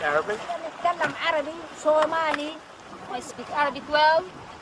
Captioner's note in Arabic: متحدثا بلغة أجنبية